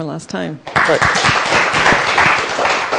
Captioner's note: applause